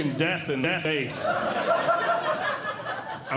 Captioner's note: audience Laughing